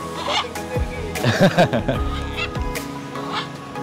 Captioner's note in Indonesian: Ketawa